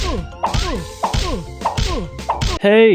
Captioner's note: chop x4; chop x5; chop x6; chop x7